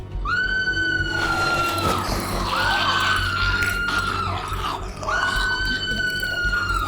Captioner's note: Dottie screaming; Sandra snarling